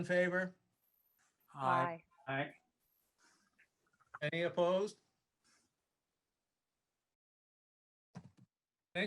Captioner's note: silence